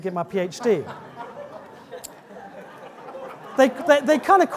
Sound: audience laughing

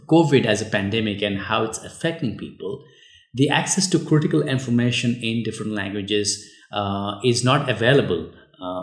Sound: uh

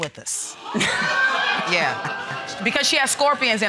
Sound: audience exclaiming

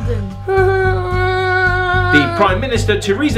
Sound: Harry whining

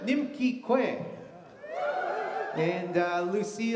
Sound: audience cheers

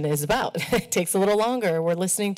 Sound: chuckles

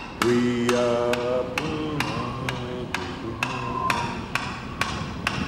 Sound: wind whirring; man's voice grows louder

